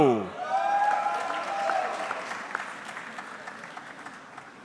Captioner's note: audience clapping